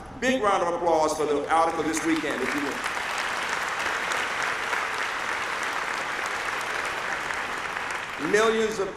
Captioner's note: applause